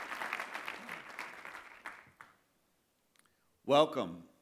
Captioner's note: applause